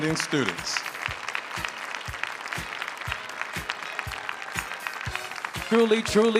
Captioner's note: audience applauding; audience cheering